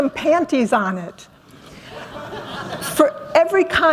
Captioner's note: laughter